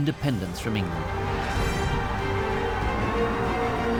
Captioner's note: cheering